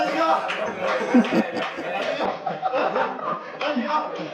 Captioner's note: managers laughing